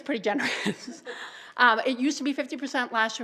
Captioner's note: laughter